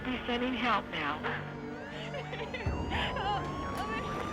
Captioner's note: siren whirring